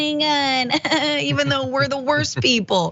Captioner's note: laugh